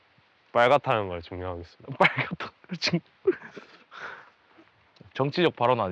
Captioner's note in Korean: 웃음